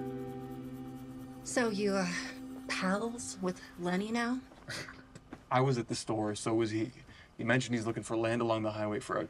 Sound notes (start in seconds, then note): 5.1 scoffs